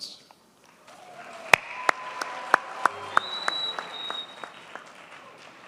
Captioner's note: audience cheers and applauds